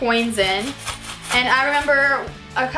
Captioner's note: coins jingle